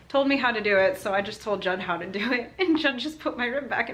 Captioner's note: laughter